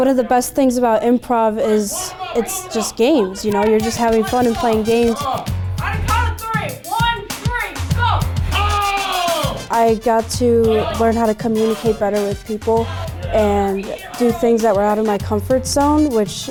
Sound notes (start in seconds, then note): 5.4 performers shouting